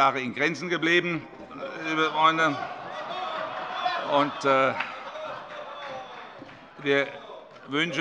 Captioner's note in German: Heiterkeit und Zurufe